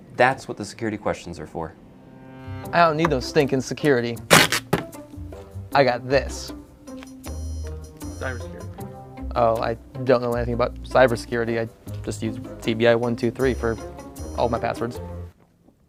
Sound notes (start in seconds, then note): 4.2 ripping